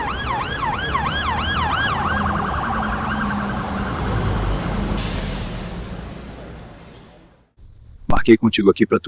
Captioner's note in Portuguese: Som de trânsito